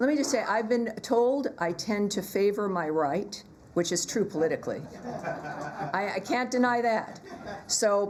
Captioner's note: laughter